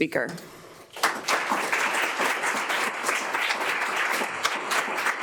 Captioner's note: audience applause